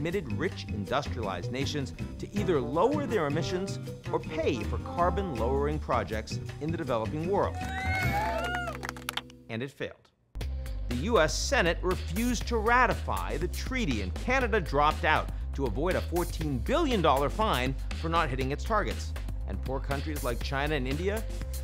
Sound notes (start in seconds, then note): 7.6 crowd cheering